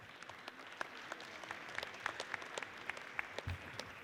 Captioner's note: audience applauds